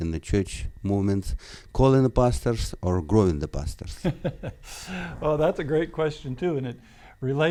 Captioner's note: laughs